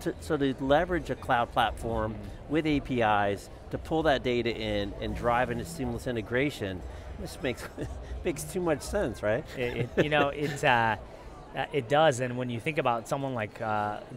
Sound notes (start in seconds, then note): 9.4 chuckles; 9.5 laughs